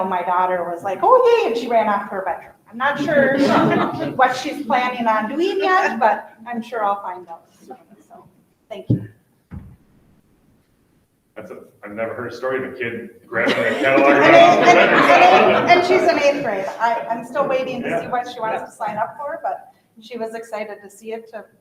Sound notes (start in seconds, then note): 2.9 all laughing softly; 13.3 all laughing loudly